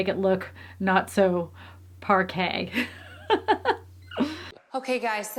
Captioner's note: laughs